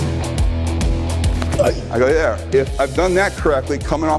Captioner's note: man grunting